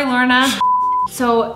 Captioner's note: beeping